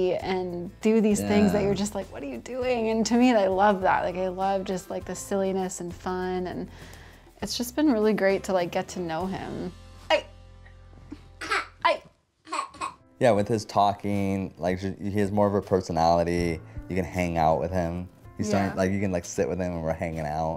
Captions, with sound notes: AND DO THESE THINGS THAT YOU'RE JUST LIKE, "WHAT ARE YOU DOING?" AND TO ME, I LOVE THAT. I LOVE JUST THE SILLINESS AND FUN, AND IT'S JUST BEEN REALLY GREAT TO GET TO KNOW HIM. HEY! [ LAUGHS ] HEY! [ LAUGHS ] YEAH, WITH HIS TALKING, HE HAS MORE OF A PERSONALITY. -YOU CAN "HANG OUT" WITH HIM. -YEAH. LIKE, YOU CAN "SIT WITH HIM" AND WE'RE "HANGING OUT".